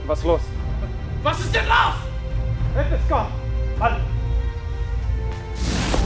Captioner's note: shouts in foreign language